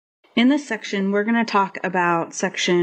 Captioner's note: voiceover